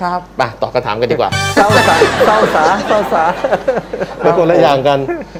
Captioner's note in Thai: เสียงหัวเราะ